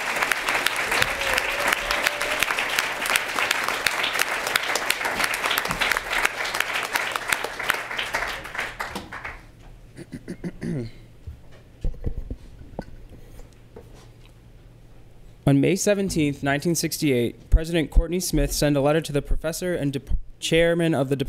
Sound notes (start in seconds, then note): 9.9 clears throat